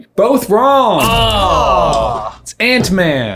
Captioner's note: groaning